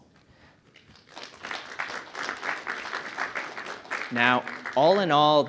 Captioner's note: audience applauding